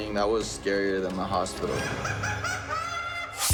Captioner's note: maniacal laugh